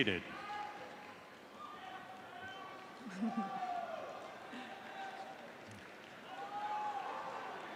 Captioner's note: cheering